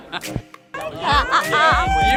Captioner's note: laughing